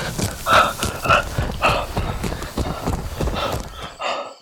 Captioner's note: guttural growling; gasping